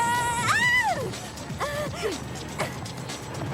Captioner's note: shouting